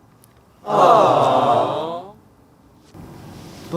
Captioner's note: invisible Audience awes